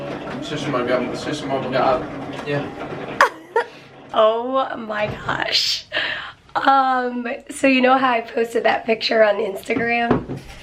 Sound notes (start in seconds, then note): 3.2 laughing